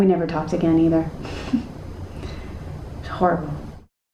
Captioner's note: chuckling